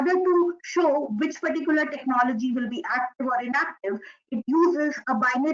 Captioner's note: audio interference